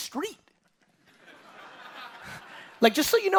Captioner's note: audience laughing